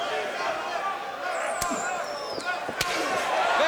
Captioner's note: crowd cheering